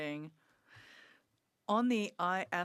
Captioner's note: speaking French